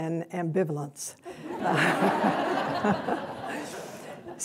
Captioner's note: laughter